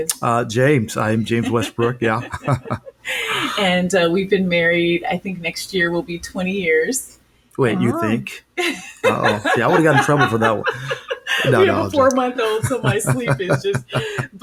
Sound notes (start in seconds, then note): 2.4 chuckling; 8.6 laughing